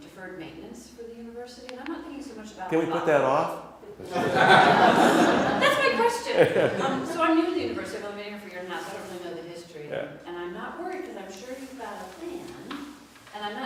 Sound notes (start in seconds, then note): 4.1 laughter off screen